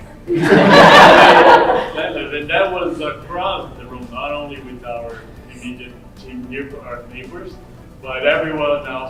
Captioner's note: laughter